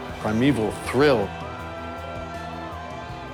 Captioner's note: people cheering